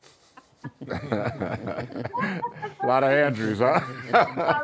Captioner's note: laughter